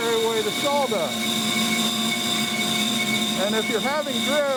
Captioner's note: bandsaw roaring